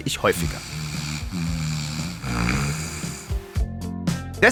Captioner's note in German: Schnarchen